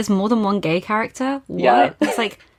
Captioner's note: laughing